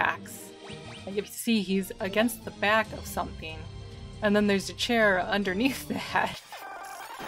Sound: laughing

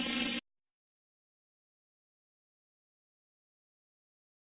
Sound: silence

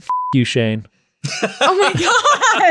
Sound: all laugh

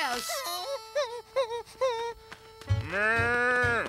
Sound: whimpering

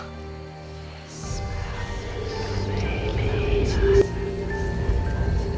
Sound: whispers

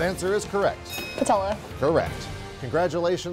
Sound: ding

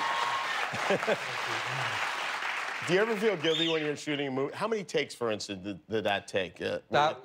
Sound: cheers and applause

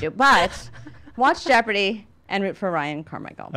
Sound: laugh

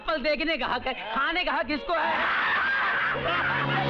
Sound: laughs

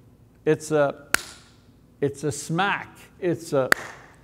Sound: claps

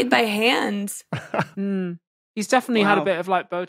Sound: snicker

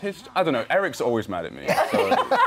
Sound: laughter

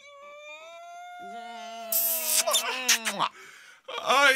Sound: sound of loud kiss

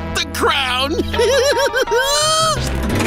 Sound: giggling

